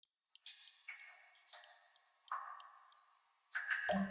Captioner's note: dripping sounds